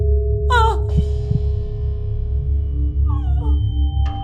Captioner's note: heart pounding